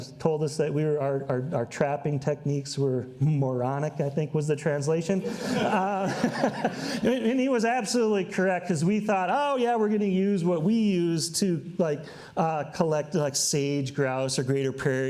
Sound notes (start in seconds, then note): 5.2 all laugh